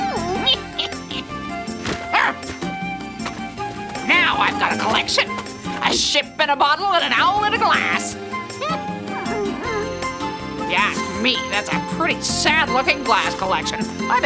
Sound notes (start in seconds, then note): 0.0 owl whimpers; 8.5 owl whimpering